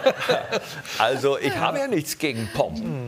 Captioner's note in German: Lachen